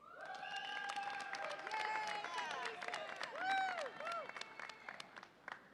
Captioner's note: audience applauds and cheers